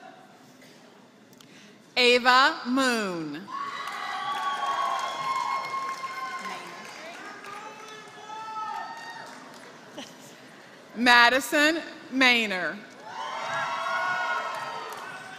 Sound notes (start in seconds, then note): 0.0 applause; 13.5 applause